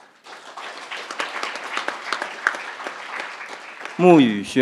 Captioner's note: crowd applauding